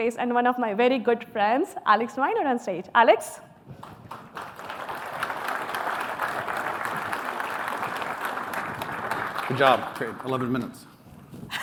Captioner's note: applause